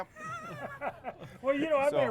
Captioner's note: laugh